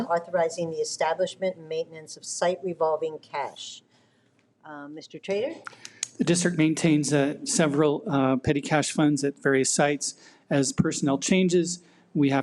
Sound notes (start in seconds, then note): none